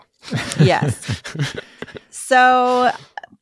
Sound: laugh

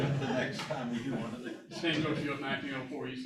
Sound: laughter

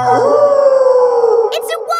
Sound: wolf howling loudly

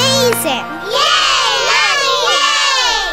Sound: cheering

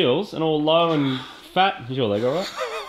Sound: sighs; snickers

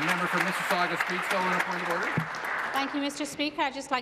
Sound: applause

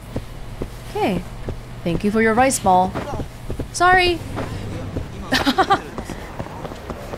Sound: laughs

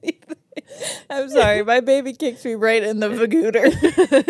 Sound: laughs

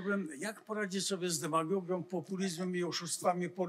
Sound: foreign language

